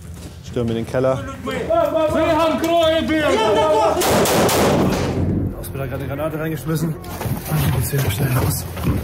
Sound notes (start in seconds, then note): 1.6 shouts